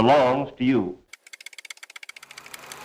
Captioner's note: typewriter keys tapping; projector whirring